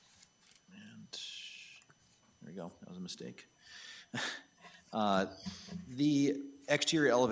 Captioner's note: chuckles